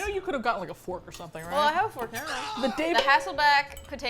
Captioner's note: man screams